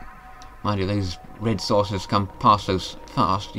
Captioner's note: zoom!